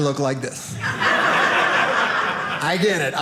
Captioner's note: audience laughing